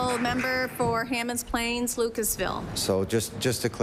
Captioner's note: applause